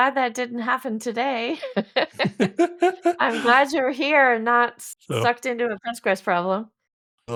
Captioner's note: laughs